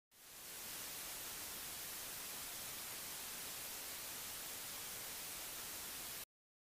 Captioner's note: static